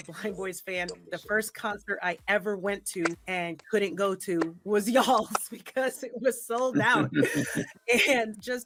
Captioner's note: laughs